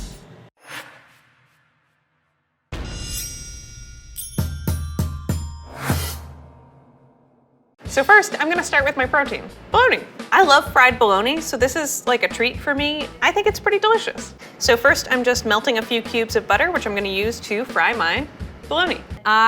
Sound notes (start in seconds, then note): 0.6 graphic swooshing; 3.1 bells dinging